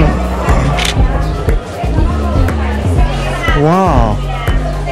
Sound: camera shutter clicks

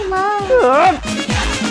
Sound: frustrated

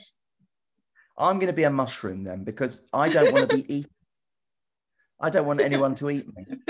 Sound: laughs; laughs

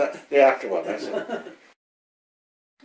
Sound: laughs

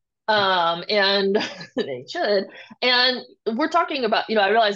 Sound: chuckles

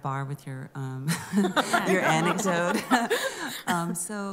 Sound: laughter

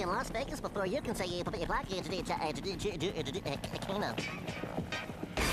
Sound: stuttering

